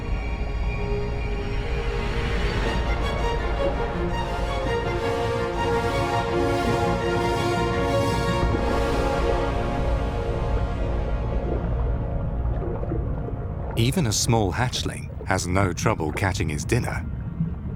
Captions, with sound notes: (dramatic music) (water sloshes) Even a small hatchling has a no trouble catching its dinner.